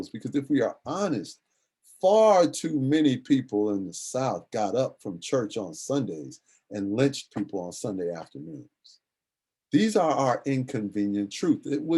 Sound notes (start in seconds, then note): none